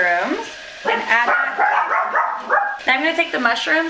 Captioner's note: dog barking